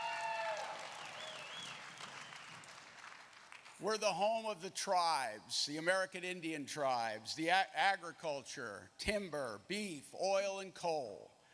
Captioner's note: applause